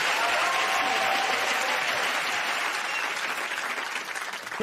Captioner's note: cheers and applause